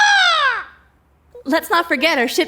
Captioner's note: Wendell squawking